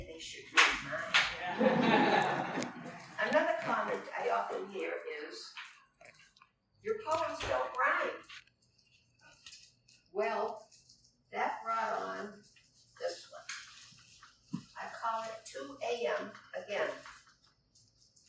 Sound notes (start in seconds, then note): 0.8 laughter